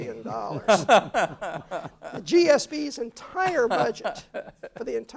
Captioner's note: laugh